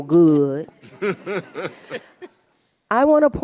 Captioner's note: audience laughs